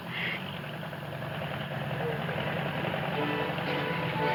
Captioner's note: engine rumbling